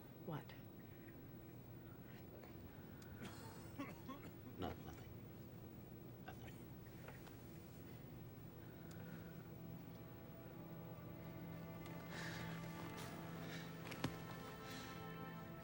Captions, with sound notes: - What? (man coughs) - Nothing, nothing. (dramatic music)